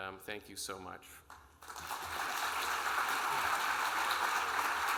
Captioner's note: audience applauding